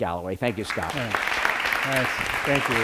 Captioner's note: applause